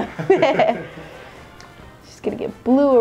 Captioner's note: laugh